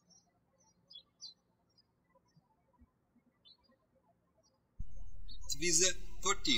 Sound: birds chirping

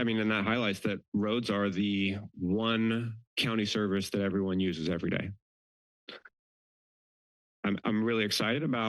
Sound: none

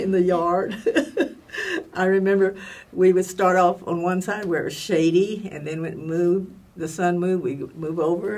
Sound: laugh

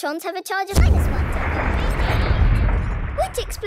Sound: distant explosion

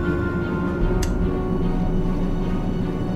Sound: smooch

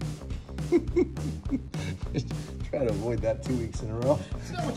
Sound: laughs

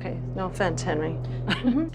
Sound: laughs

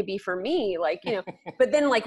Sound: laughs

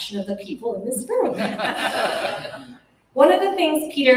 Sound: laughter

